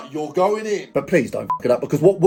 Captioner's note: beep